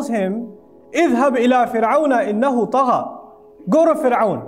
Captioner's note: Arabic